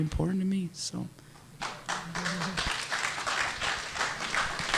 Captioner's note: audience applauding